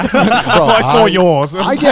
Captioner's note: laughs